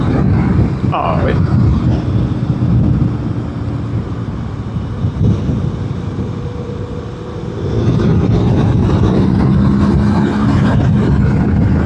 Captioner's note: engine